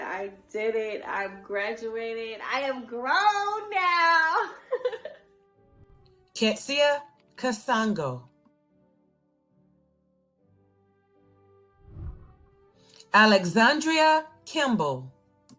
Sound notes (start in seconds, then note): 5.1 laughs; 9.0 celebratory music; 11.7 whooshing